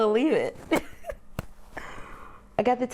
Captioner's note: laughs